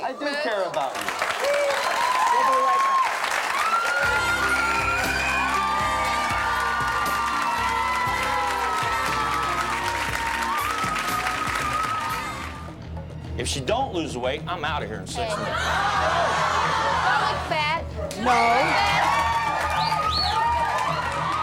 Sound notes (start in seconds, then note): 4.6 cheering; 4.6 smooth jazzy music; 18.1 cheering